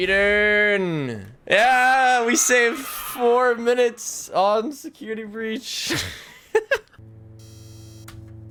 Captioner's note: laughs